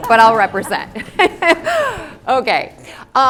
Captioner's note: laughing